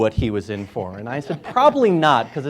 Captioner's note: laughing